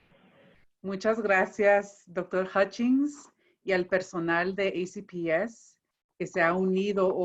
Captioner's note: speaking in foreign language